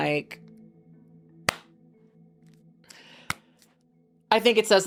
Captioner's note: hands clapping